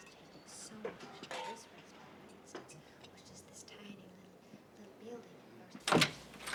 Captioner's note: background people chattering